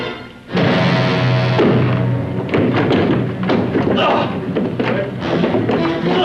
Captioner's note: gasping